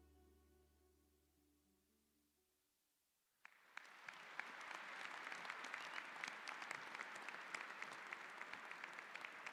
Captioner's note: applause